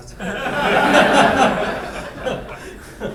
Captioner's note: laughing